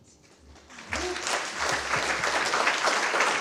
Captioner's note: applause